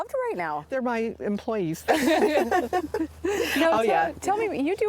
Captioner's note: laughing